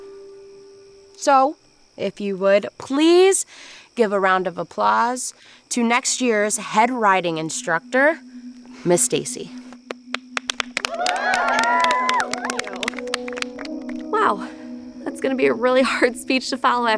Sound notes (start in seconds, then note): 10.1 campers applauding